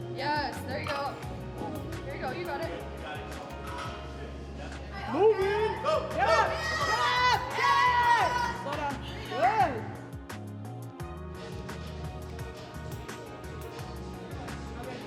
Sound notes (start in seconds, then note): 6.2 shouting; 12.0 soft music